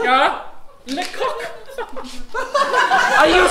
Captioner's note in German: Französisch